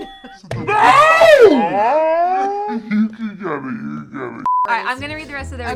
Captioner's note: girls exclaiming in slow motion